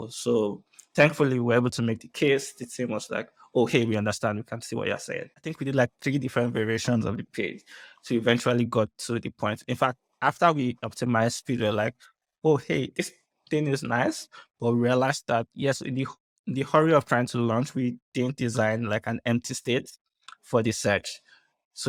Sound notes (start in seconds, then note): none